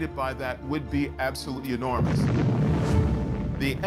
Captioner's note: loud explosion